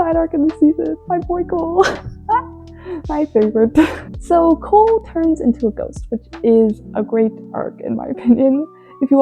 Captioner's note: laughs